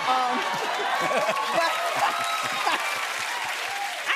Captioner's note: cheers and applause